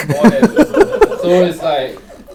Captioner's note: audience laughs